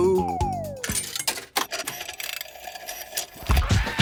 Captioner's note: clicks, whirring; hip hop music plays